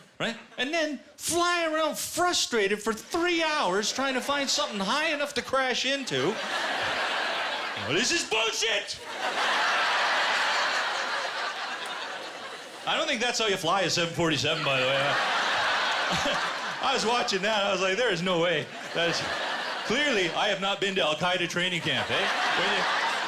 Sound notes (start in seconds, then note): 8.9 laughter; 14.2 laughter